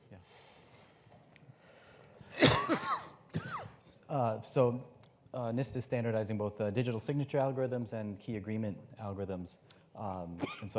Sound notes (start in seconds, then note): 2.3 coughing